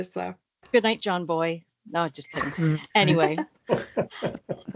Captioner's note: people start laughing